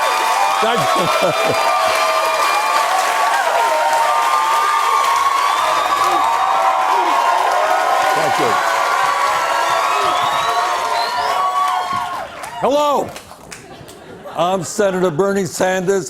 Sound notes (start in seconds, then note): 4.8 Crowd chants "Bernie!"